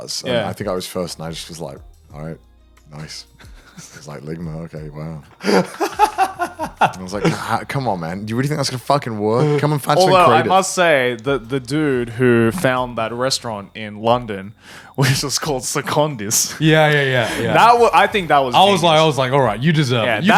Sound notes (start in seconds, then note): 5.4 laughing